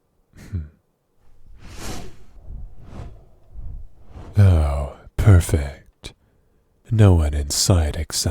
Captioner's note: wings noise